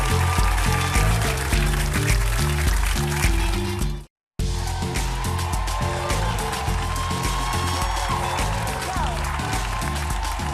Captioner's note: cheers and applause